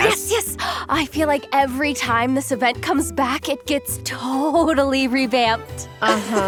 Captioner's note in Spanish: Ejem